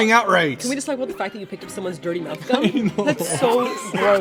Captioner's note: crying